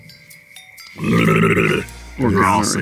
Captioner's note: Keith babbles